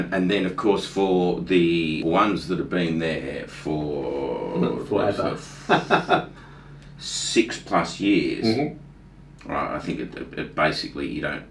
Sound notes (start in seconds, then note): 5.6 laughing